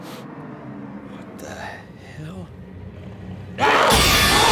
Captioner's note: sniffs; zombie growling